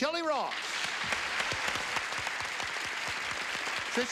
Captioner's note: applause